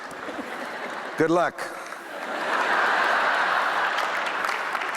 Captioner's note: laughter